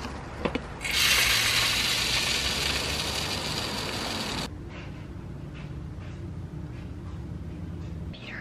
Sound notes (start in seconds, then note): 0.8 bird seed pouring